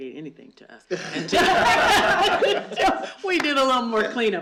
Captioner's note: laughter